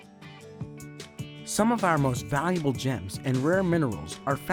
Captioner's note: guitar music; voiceover